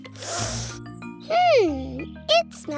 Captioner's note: sniffs